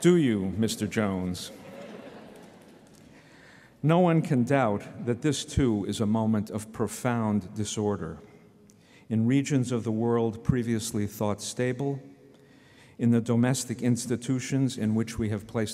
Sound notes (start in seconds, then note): 1.5 laughter